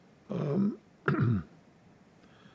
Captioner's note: clears throat